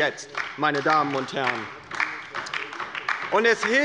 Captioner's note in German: Beifall bei der LINKEN